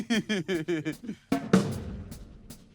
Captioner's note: laughs